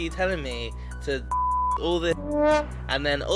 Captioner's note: dramatic music; beep; horn honking